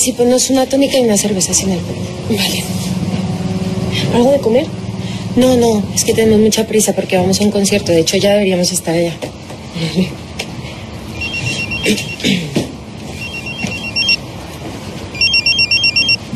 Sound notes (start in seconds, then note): 11.6 phone ringing